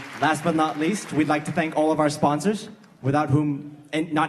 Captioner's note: applause